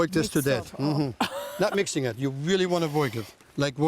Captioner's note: laughs